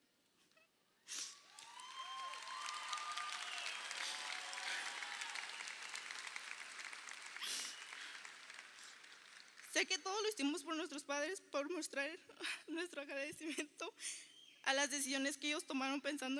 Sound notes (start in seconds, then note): 1.3 crowd applauding